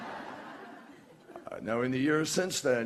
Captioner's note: laughter